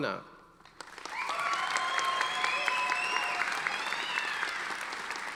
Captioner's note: audience applauding